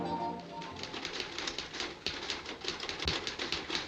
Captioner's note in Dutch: toetsenbord klakken